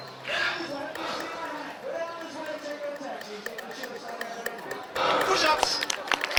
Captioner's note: announcer faintly speaking